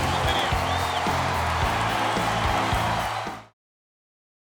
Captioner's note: crowd cheering